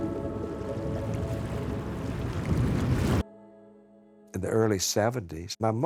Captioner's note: water lapping